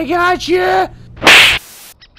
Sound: slap

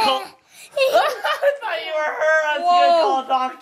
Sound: laughing

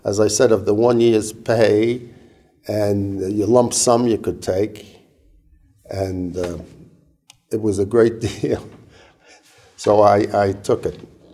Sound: laugh

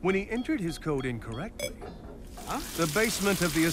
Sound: keypad beeps

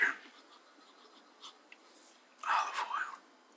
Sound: sniffs

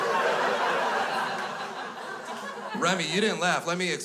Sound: crowd laughs

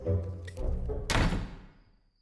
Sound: music continues; door slams shut; cricket sounds

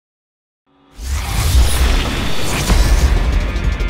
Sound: whirring

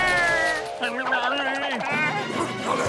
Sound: grumbling

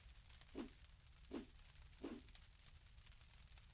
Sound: fire crackling; logo whooshing

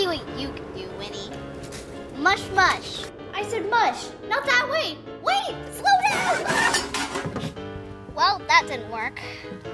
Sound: scream and Crash

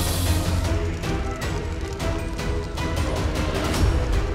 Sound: fire crackling

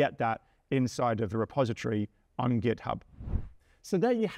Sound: screen whooshes

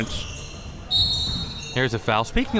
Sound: whistle

